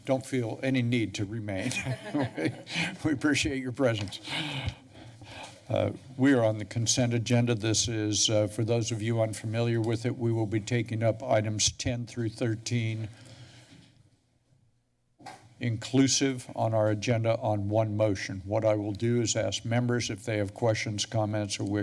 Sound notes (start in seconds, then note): 1.6 laughter; 4.2 breathes steadily; 13.1 pause